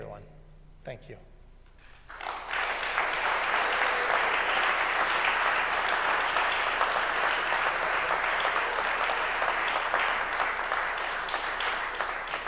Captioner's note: applause